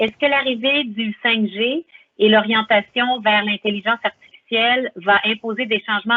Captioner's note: speaking foreign language